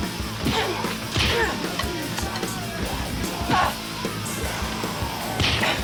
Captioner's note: upbeat music; punches thudding